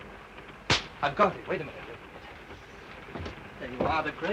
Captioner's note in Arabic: يصفق بيديه